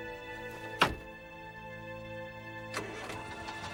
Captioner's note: car door slams; engine starts